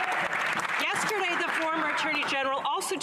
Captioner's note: some Applause